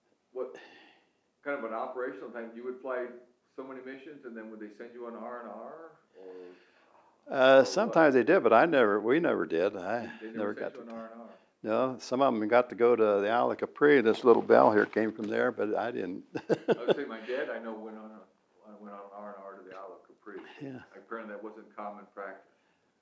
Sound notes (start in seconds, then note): 16.1 laughs